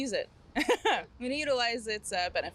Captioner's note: chuckling